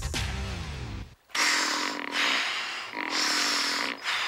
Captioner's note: creaking